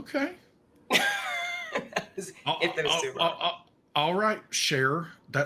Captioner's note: laughs